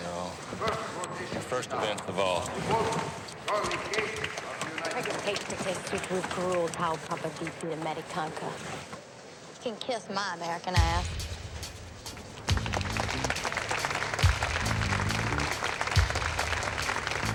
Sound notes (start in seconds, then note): 5.6 speaking romanian; 12.4 applause